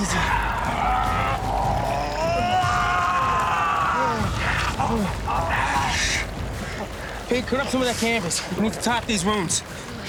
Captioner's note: groaning